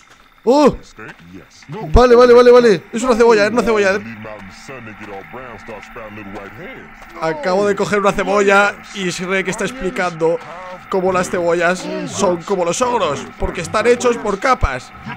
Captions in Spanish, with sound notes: Oh Vale, vale, vale es una cebolla, una cebolla. *Sonido del juego* Acabo de cojer una cebolla y Shrek esta explicando como las cebollas. Son como los ogros, porque están hechos por capas.